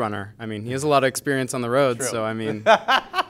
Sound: laughs

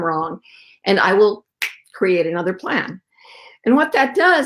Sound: snaps fingers

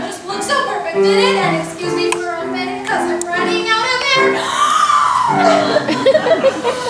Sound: deep breath

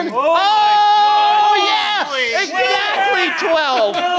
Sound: group cheering

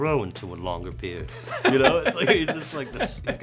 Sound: laughter

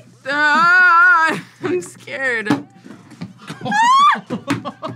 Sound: yells; laughs; screams

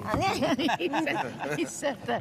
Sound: both laughs

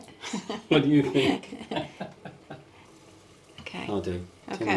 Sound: both laughing

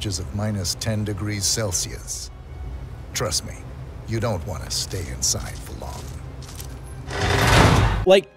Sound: slam

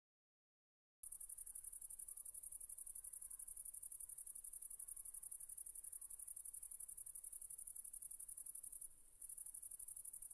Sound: sound of crickets

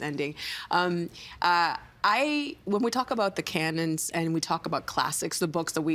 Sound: none

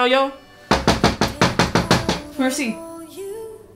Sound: knock

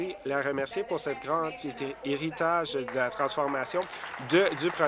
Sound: speaking in French

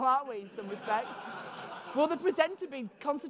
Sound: audience laughing

